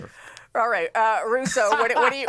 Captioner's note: laughter